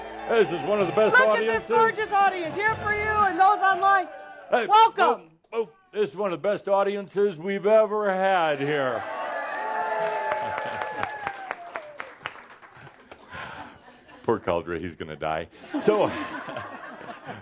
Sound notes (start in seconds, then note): 12.1 more cheers and applause; 15.6 laughter